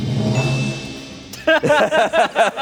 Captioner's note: bell dings; group laughing